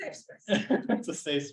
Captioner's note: chuckles